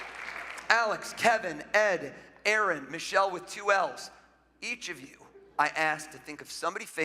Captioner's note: applause